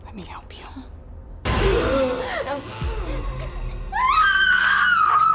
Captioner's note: electricity buzzing; Madam Maze gasps; Kira screaming